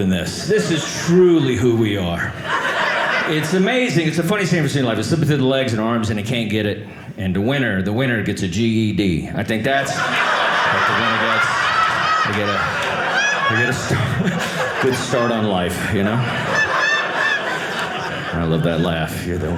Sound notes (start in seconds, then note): 10.9 audience laughing; 16.3 audience laughing